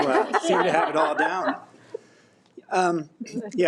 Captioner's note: all laugh